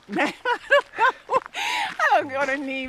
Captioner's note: Kim laughs